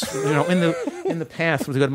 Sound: laughter

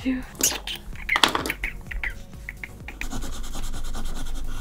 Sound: thinking noises

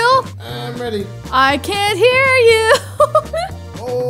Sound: laughs

